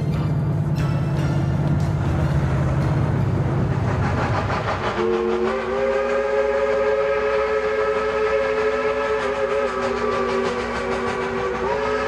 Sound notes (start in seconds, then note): 0.1 bouncy music; 3.9 train whirs and hoots